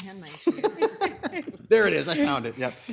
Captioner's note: all laugh